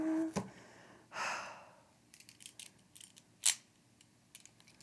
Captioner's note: deep exhale